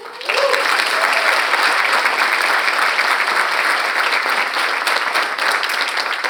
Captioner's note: audience cheers; audience applauding